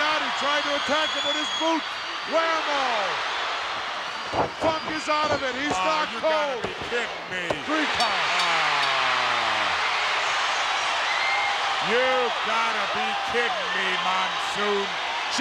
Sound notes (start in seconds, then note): 3.6 crowd cheers; 7.9 bell rings